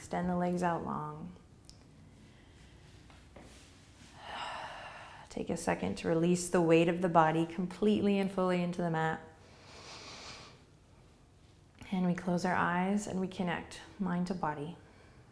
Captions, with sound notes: Extend the legs out long. (exhaling) Take a second to release the weight of the body completely and fully into the mat. And we close our eyes and we connect, mind to body.